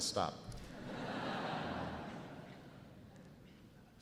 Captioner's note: audience laughs